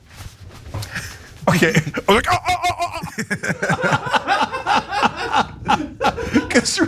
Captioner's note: laugh